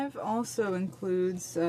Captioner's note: speaking French